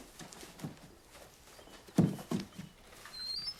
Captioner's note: birds chirping